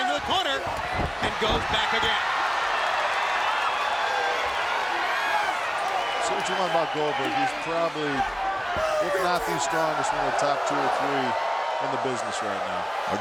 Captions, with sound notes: into the corner, and goes back again. (crowd reacts) Say what you want about Goldberg. He's probably, if not the strongest, one of the top two or three in the business right now.